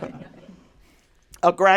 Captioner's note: laughter